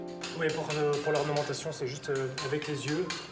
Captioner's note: speaking French